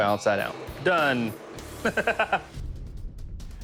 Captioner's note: laughs